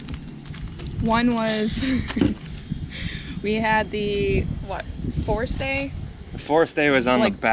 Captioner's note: laughs